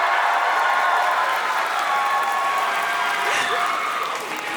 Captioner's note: applause; cheering